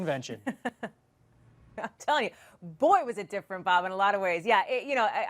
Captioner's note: laughs